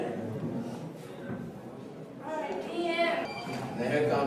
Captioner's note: speaks French